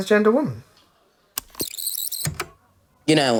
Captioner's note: the tape whirrs, fast forwarding